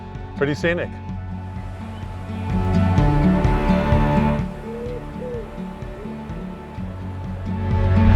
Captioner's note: birds chirping